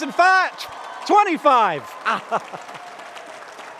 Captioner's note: laughs; applause